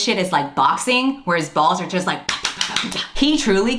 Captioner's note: slapping sounds